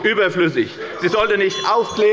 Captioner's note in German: Anhaltende Unruhe – Glockenzeichen des Präsidenten